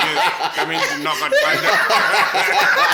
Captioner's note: everybody laugh